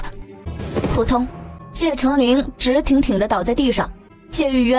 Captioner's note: thump